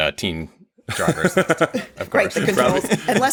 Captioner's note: laughing